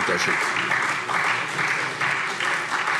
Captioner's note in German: Beifall SPD